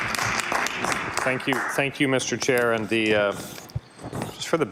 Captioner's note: applause